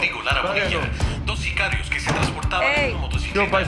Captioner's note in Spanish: Voz en la TV